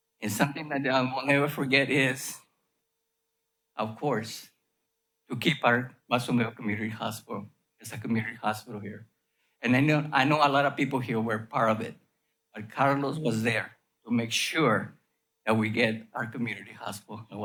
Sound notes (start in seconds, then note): none